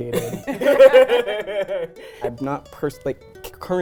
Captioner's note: laughs